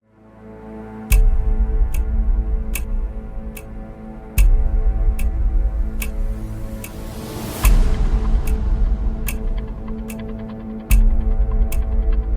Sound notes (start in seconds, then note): 0.9 dramatic music; 4.3 clock ticking